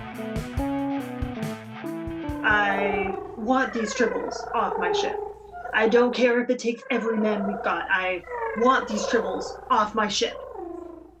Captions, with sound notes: (tribbles coo-ing) KIRK: I want these off my ship. KIRK:I don't care if it takes every man we've got, I want these tribbles off my ship.